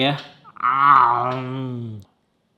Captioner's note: moans